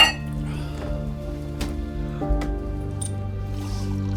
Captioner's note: glass clanks